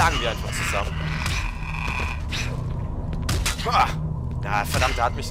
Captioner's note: melee and hitting noises